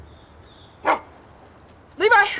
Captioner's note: barking